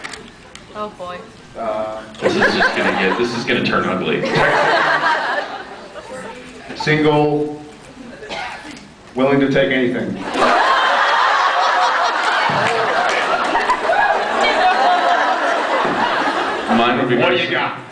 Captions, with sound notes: Um... This is just gonna get -- [laughs] this is gonna turn ugly. Texan... [laughs] single... willing to take anything. [laughs] Ooooh! Mine would be just-- Whatta ya got?